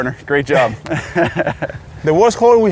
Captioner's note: laughs